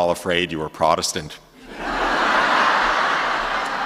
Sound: laughter LOL

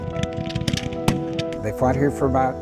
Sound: guns continue firing

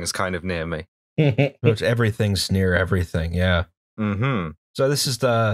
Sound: laughter

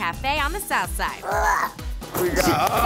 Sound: grunting; cheering

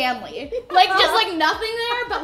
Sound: giggling

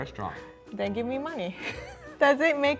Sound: laughing

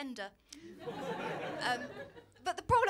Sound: laughter

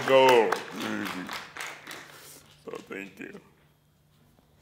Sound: applause, cheers

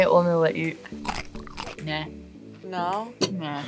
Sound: pickle crunches

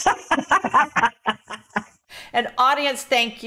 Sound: laughs

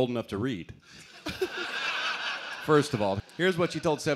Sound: laughter

